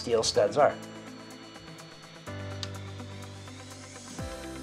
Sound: stud finder beeping

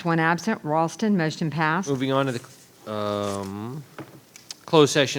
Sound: hums

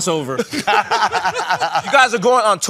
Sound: laughter

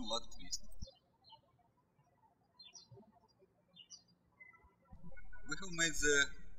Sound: birds chirping

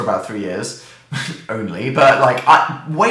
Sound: scoffs

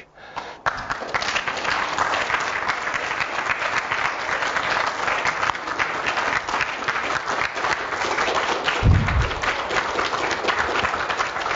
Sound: audience Applause

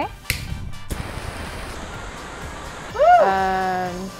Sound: lighter igniting; flames burning

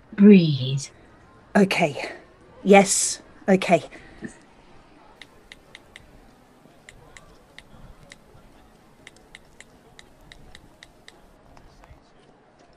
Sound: mobile phone buttons dialling

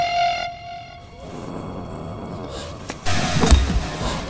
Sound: zombies growling; music crashes

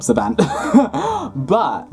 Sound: laughing

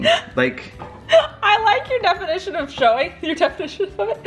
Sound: laughs

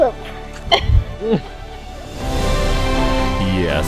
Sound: laughing

